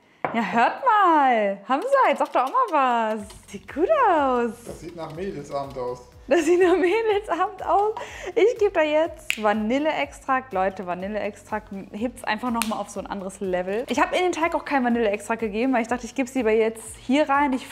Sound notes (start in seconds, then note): 6.4 laughing